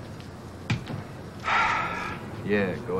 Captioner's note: sighs